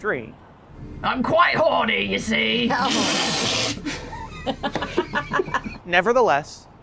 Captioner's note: laughter